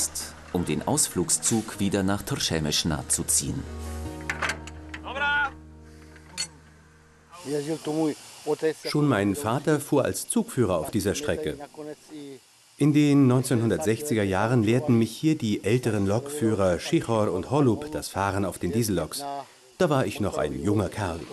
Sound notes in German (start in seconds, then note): 4.6 Ruf auf Tschechisch